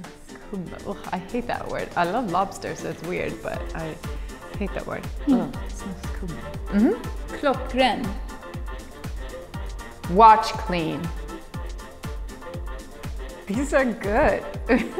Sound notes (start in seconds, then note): 0.2 speaking in a foreign language; 6.3 speaking in a foreign language